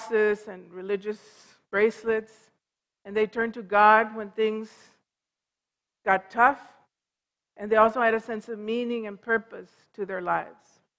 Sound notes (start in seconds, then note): none